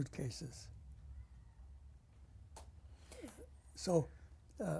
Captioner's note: pauses for 3 seconds